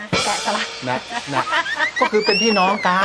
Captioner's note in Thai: หัวเราะ